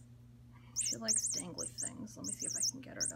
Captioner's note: toy squeaks